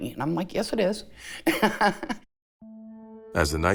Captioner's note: laughs